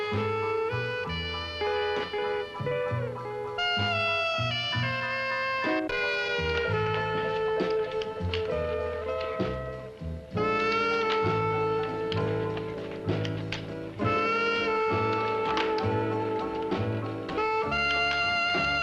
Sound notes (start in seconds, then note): 6.6 burlesque music; 6.6 cameras clicking